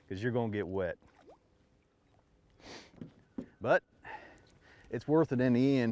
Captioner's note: none